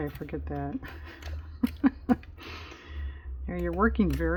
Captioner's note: laughs